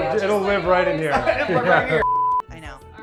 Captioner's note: beep